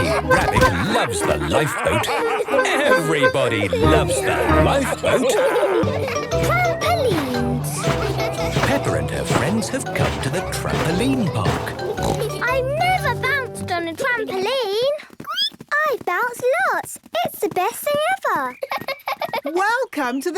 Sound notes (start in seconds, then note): 13.2 squeaks; 16.8 giggles